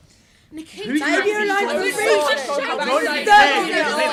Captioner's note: shouting